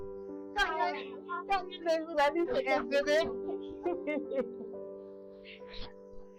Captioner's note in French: rires